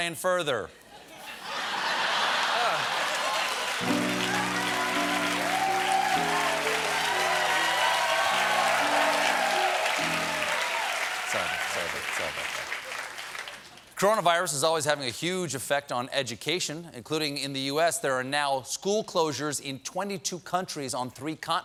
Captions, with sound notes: ( LAUGHTER ) ( APPLAUSE ) ( CHEERS AND APPLAUSE ) THE CORONAVIRUS IS ALSO HAVING A HUGE EFFECT ON EDUCATION.